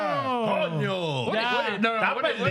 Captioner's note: speaking In Foreign Language